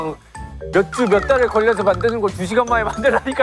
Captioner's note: whining